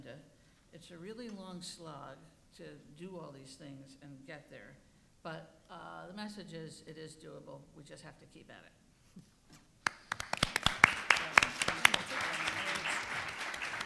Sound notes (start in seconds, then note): 9.8 audience applauding